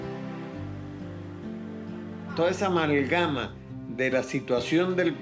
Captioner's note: speaking Spanish